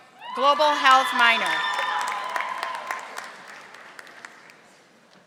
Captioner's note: audience applauding